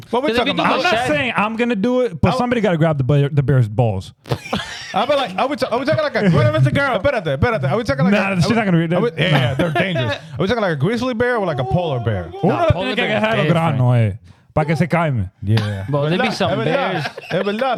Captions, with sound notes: What we're talking about. I'm not saying I'm gonna do it, but somebody gotta grab the bear's balls. I'll be like, I would say, I would say, I would say, "Grew it up, it's a girl." I bet I do, I bet I do. I would say, "Grew it up, they're dangerous." I was talking like a grizzly bear with like a polar bear. (Speaking In Foreign Language) Yeah. (Speaking In Foreign Language)